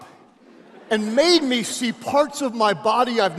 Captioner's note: audience laughing